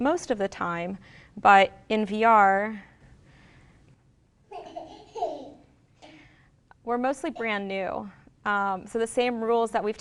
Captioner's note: audio: baby giggling